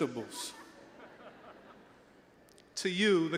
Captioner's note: all chuckling